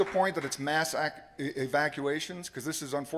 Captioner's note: applause